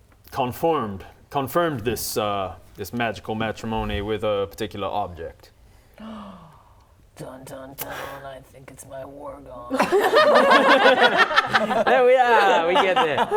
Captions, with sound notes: confirmed this magical matrimony with a particular object *gasp* Dun, dun, dun I think it's my war gong *laughing* There we are, we get there